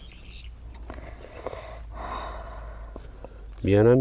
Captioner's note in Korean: 어이없는 한숨소리!!!